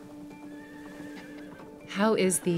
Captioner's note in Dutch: paard hinnikt